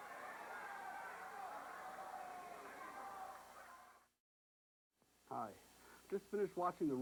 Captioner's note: crowd chatter